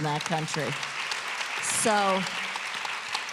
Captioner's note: applause